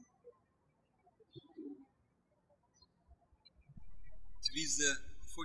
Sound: birds chirping

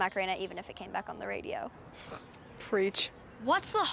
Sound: scoffs

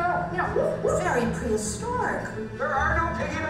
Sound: voiceover

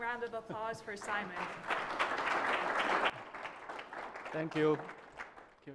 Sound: applause

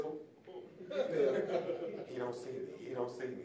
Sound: audience laughing

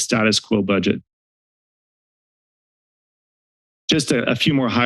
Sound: silence

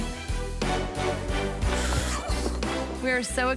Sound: squeals

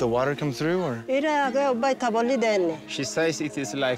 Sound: speaking foreign language

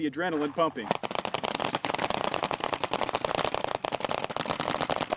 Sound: paintballs firing

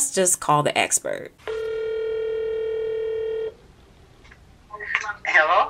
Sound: phone ringing

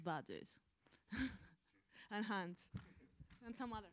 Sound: laughs

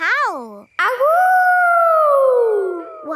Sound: howling

